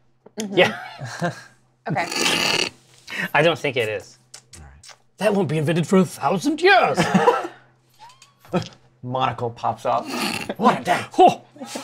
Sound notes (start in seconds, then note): 0.6 laughter; 5.2 old aristocrat voice; 10.0 harrumphs; 11.6 laughter